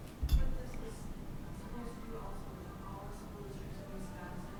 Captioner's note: woman speaking faintly